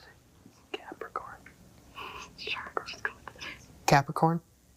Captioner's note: group whispering